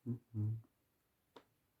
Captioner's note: humming